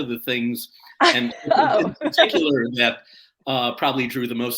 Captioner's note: laughter